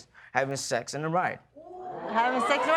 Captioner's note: audience gasp; laughter